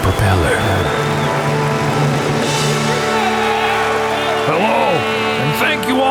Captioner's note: crowd cheering; triumphant music